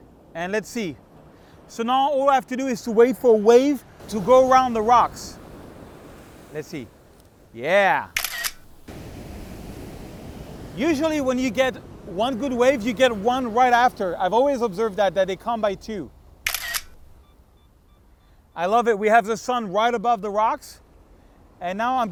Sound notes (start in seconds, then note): 8.1 camera snaps; 9.1 waves crashing; 16.4 camera snaps and beeps